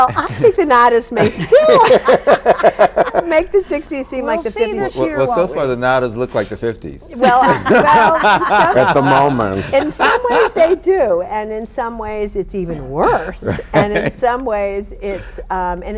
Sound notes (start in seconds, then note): 1.1 all laughing; 7.1 all laughing